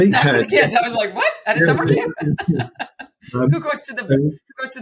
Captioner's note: laughs